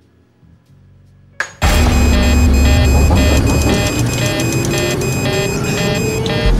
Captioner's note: emergency sirens and engine roaring